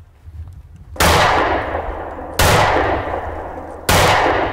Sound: gunshots

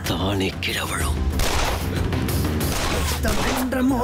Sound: gun shots

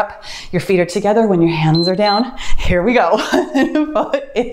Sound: timer beeps; laughs

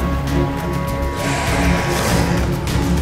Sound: snarl

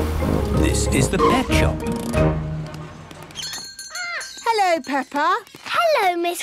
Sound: bell jingling

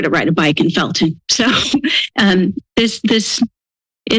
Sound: laughter

